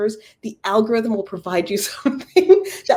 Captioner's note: laugh